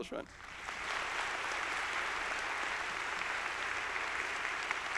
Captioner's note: audience applauding